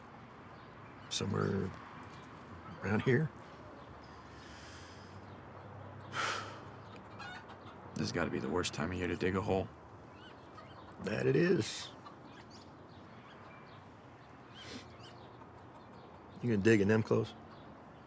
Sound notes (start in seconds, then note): 6.1 Isaac sighs; 6.4 chickens squawking; 12.7 birds chirping